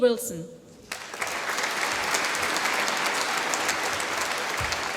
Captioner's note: applause